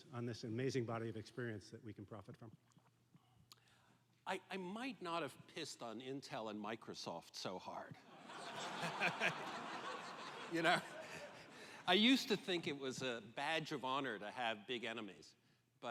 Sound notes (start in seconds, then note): 8.1 laughter